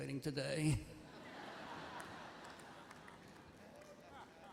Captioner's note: laughter